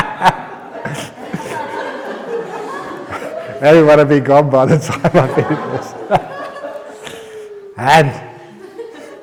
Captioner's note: laughter; laughter